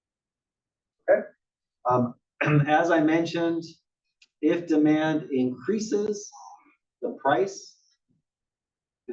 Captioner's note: cough